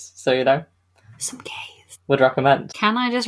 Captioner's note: whispers